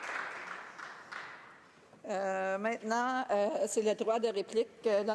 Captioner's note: applause